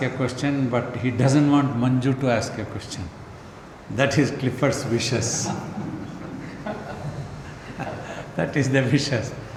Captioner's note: laughs